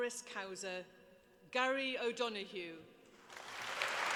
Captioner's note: applause